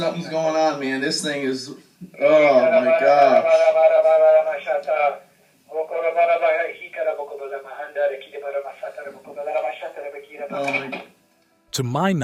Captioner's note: praying in another language